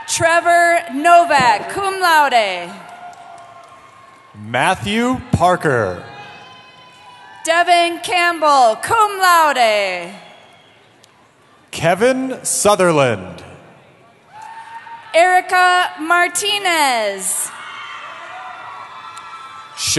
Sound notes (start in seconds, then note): 0.0 cheering; 2.4 cheering; 14.2 cheering